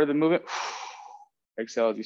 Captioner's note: breathing out